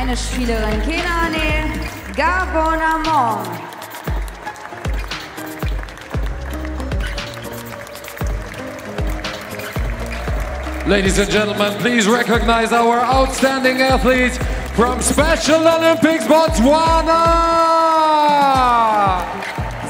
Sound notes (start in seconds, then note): 3.3 applause; 4.6 ♫ Midtempo guitar music ♫